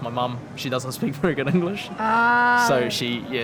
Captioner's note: laughs